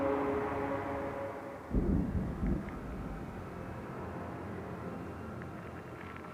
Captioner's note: distant explosions and screaming